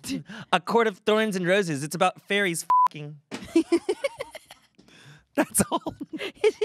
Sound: beep

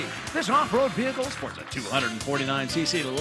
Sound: cheers and applause

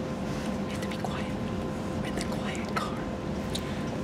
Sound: whispers

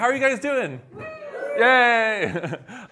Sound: cheers; chuckles

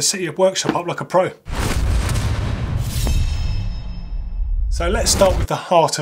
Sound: booming, blade slicing

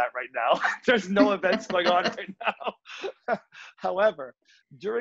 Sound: laughs

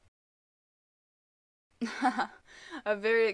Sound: nervous laughter

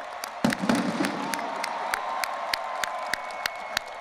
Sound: audience applauding and cheering; explosion booming; audience applauding and cheering

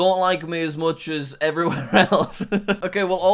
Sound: laughs

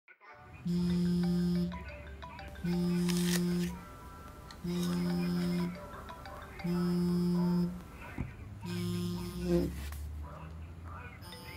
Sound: phone vibrating

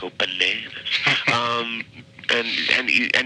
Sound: chuckling

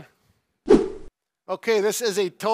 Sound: whooshing sound

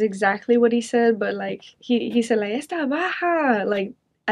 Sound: speaking in foreign language

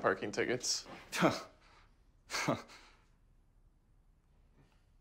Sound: laughs

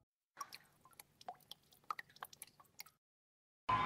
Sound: raindrops falling on the cascading water; audience cheering and applauding

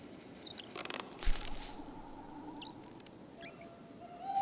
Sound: creaking

